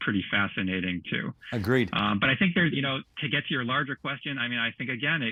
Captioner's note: laughing